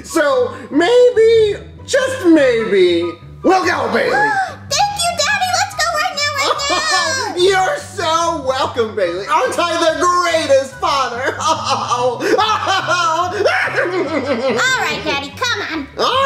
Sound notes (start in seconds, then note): 4.1 gasps; 11.2 hysterically laughing